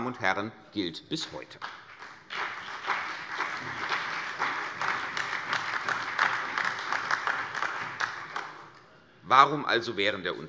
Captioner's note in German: Beifall CDU und vereinzelt AfD